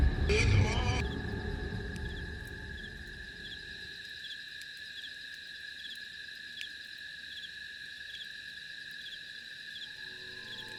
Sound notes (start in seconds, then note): 5.1 crickets Chirping